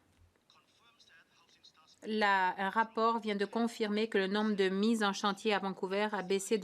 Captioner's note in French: voix de l'interprète